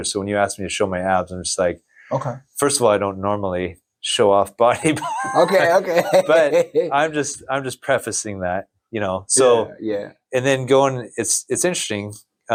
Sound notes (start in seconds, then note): 4.8 laughs